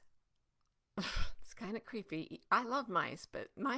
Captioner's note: sighing